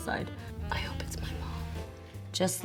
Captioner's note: whispers